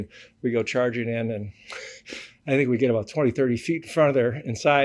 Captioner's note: laughs